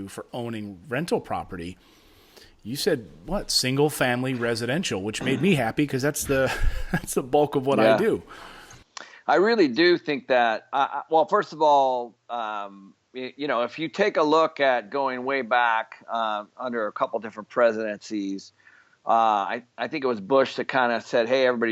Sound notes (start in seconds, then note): 6.2 chuckling